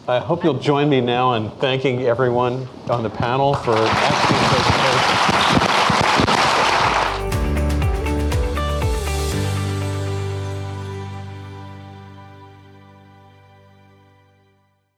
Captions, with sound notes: - I hope you'll join me now in thanking everyone on the panel for excellent presentations. (audience clapping) (upbeat music)